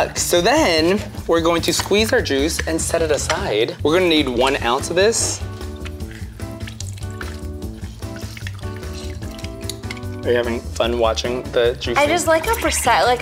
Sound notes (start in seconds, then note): 6.2 jazzy music continues; 6.2 liquid trickling